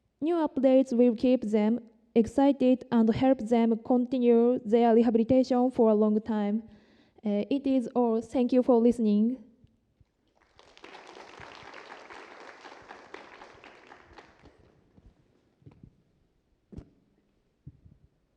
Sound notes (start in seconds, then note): 10.2 applause